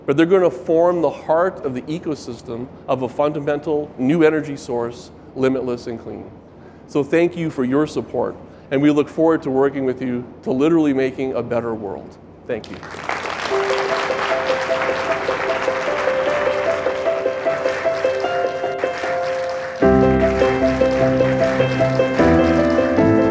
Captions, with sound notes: but they're gonna form the heart of the ecosystem of a fundamental new energy source, limitless and clean. So thank you for your support, and we look forward to working with you to literally making a better world. Thank you. (warm music) (audience applauding) (audience applauding)